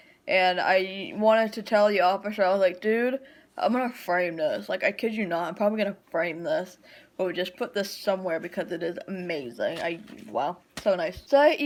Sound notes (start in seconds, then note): none